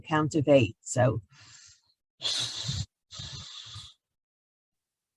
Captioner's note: exhales audibly